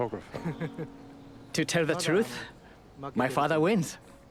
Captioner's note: voiceover; laughs